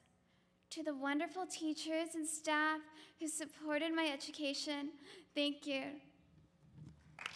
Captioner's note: applause